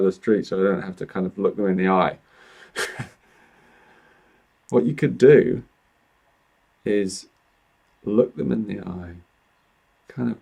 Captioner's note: chuckles